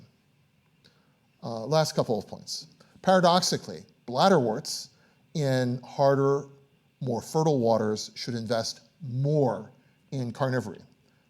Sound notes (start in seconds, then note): none